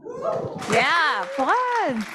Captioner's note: audience cheering